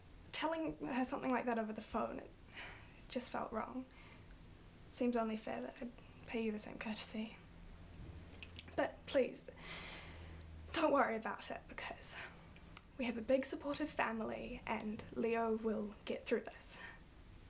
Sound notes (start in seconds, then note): 2.4 sighs; 9.6 deep breath in